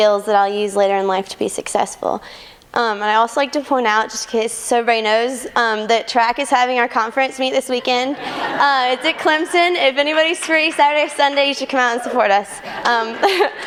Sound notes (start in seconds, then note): 7.8 laughter